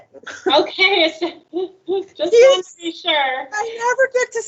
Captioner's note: laughs